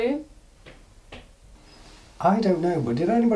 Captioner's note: gentle tapping